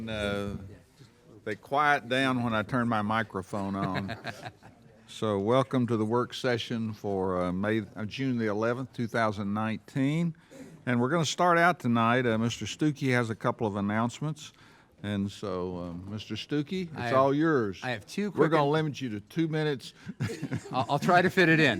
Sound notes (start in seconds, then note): 3.8 laughing